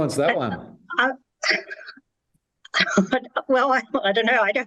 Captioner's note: laughing